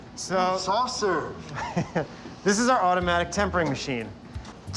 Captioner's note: laughs